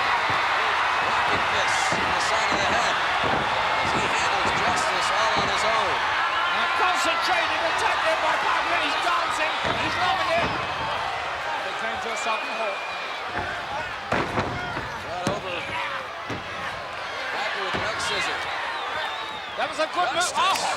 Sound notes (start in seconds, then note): 0.0 blows thudding; 0.0 body thudding; 0.2 crowd cheering; 3.1 crowd cheering continues; 10.7 blows thudding; 13.2 body thudding; 16.1 hands thudding